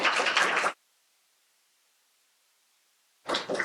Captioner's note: applause